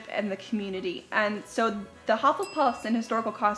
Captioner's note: dings